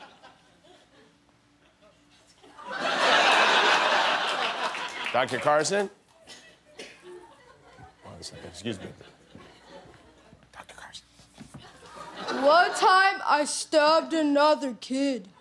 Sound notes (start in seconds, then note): 4.5 laughter